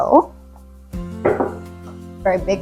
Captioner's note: knocks on wood